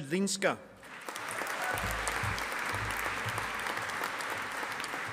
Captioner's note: audience applauding